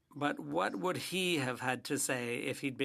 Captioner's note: speaking French